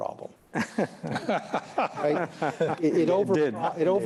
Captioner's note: laughter